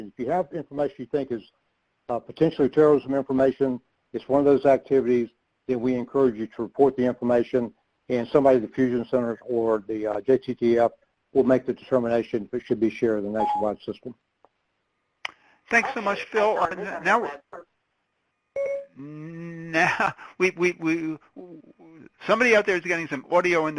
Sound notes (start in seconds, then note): 18.6 beeping; 19.1 laughs